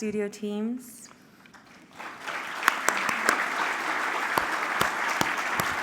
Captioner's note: applause